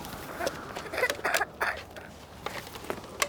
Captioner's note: coughing